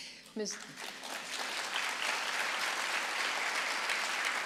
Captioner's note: audience applauding